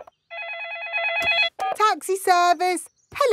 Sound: phone ringing; dialing

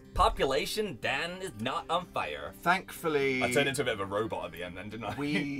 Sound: giggles

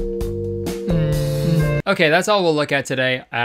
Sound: kissing noises

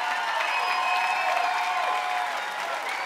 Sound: cheering continues

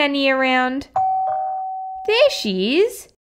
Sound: doorbell

